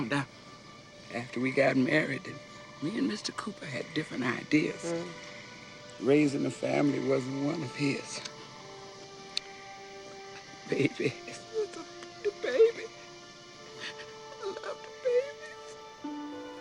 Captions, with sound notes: I found out after we got married that me and Mr. Cooper had different ideas. Raising a family wasn't one of his. My baby, little baby. (sobs) I loved the babies.